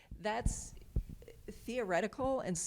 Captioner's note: none